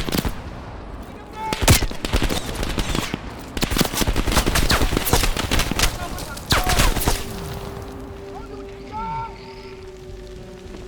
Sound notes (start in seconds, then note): 0.4 speaking in foreign language; 1.5 gun fires; 4.7 speaking in foreign language